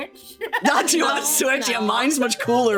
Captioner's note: laughing